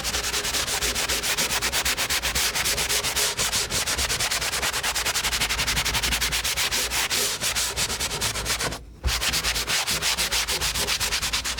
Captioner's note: scratching